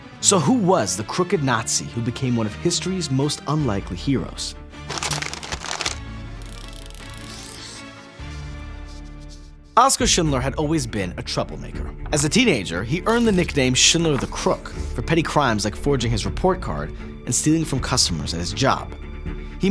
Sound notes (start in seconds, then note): 4.8 paper rustling; 6.4 reel clicking